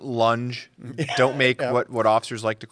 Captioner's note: laughing